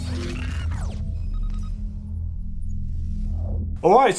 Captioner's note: electronic beeps